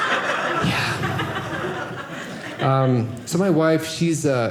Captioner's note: audience laughing